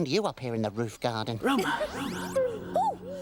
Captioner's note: echoing